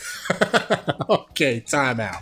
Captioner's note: laughs